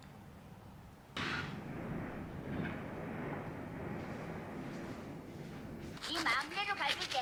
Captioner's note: I left the window open… the wind noise is wild